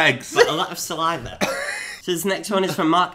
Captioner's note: laughs